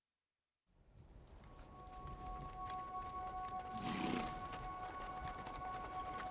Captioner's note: horse grunting; calming music